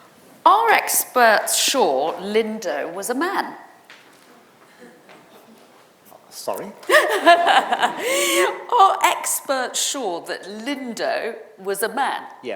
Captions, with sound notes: are experts sure Lindow was a man. - Sorry? (presenter laughing) - Are experts sure that Lindow was a man.